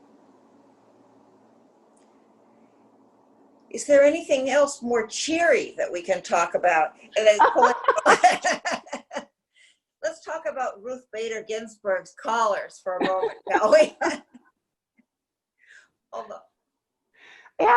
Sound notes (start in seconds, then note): 7.2 laughs; 13.0 laughter